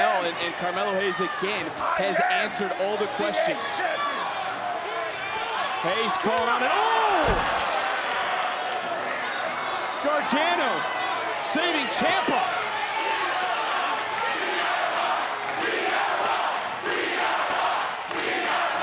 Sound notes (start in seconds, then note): 12.0 crowd chanting